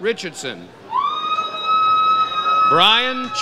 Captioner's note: audience cheers